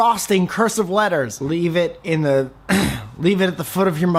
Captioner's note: clearing throat